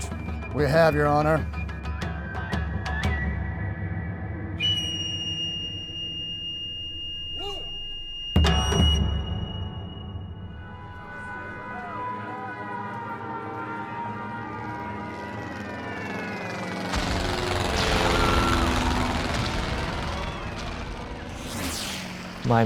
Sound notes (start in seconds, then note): 10.9 sounds of war